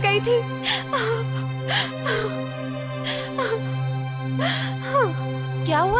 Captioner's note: sobbing